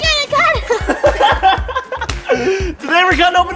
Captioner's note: laughter